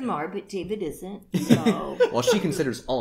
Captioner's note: relieved laughter?